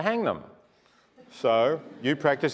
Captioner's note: laugh